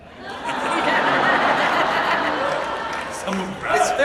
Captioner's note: audience laughs